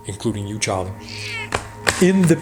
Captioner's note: bird squawks